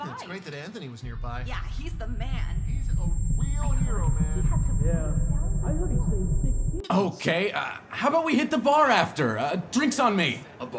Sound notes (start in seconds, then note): 1.1 sound muffles; 4.6 indistinct chatter